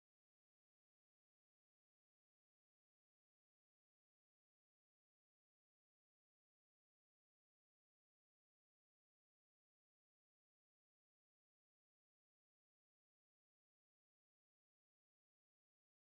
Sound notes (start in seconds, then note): none